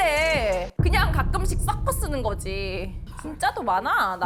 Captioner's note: shockwaves